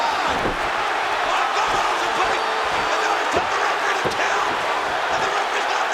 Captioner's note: overlapping chatter